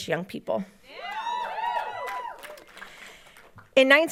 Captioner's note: audience cheering and applauding